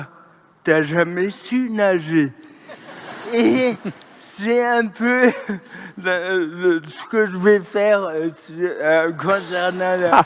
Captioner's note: laughter